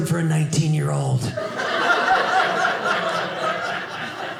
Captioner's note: audience laughing